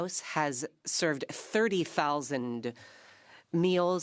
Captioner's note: speaking French